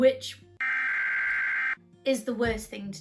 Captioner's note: Sirenhead noises